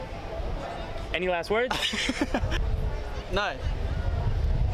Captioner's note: laughing